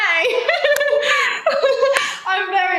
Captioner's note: laughs